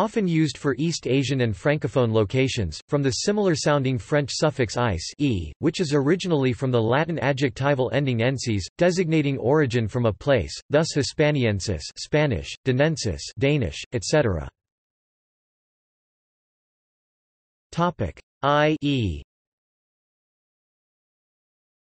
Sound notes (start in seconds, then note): 15.1 Spanish; 17.9 Danish